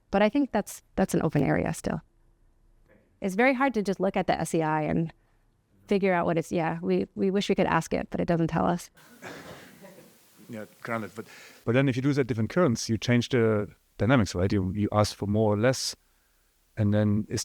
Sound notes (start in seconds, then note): 9.0 laughter